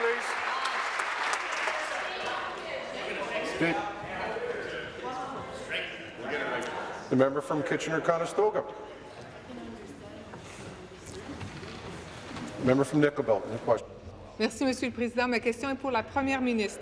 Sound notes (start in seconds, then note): 0.0 applause; 8.2 conversation din